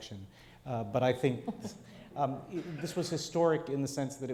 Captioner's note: laughs